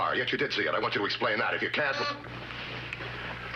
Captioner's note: intercom beeps